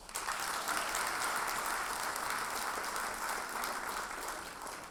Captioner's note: audience applauds